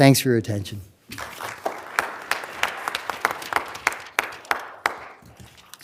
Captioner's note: applause